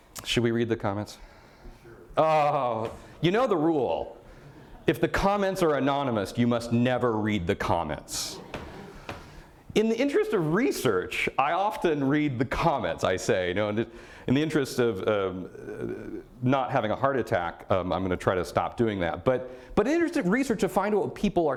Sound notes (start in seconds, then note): 8.2 audience laughter